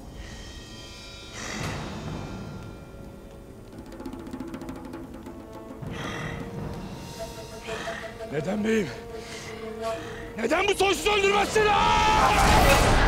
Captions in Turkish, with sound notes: (Nefes sesi) Neden beyim? Neden bu soysuzu öldürmezsin ha?